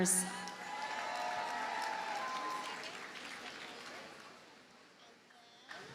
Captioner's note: audience cheers and applauds